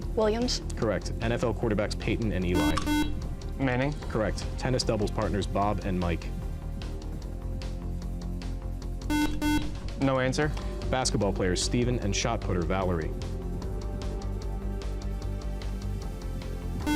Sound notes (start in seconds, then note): 2.5 buzzer; 9.1 buzzer; 16.8 buzzer